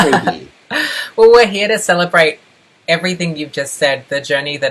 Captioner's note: laughs